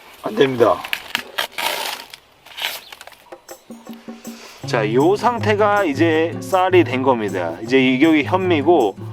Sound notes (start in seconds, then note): 0.8 riiiip!